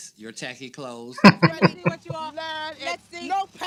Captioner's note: chuckling